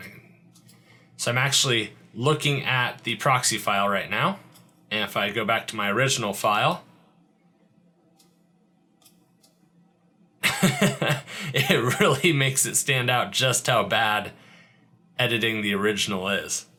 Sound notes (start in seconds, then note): 10.4 laughing